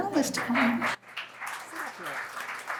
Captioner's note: applause